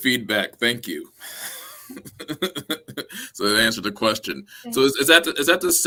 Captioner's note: laughter